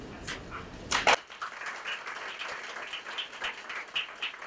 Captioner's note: audience clapping